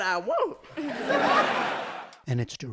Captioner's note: laughter